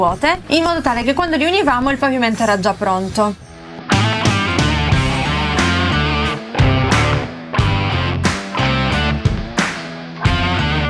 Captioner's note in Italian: Applauso